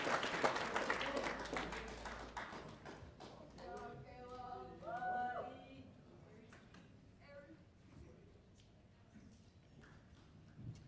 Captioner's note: cheers and applause